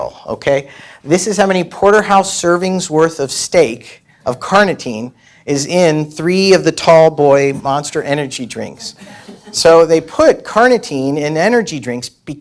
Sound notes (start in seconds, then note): 9.0 audience stirs